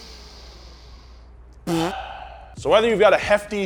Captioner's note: inhales; exhaling and farting